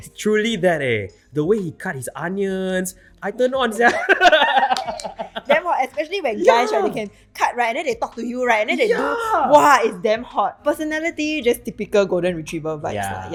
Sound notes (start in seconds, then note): 3.8 both laughing